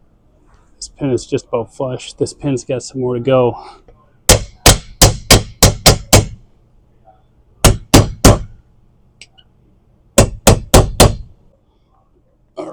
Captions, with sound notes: This pin is just about flush. This pin's got some more to go. (hammer banging)